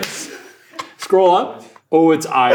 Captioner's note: Ryan laughing